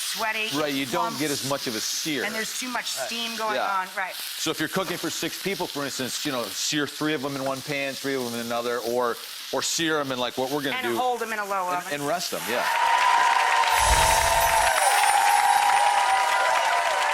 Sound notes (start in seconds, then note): 12.5 audience clapping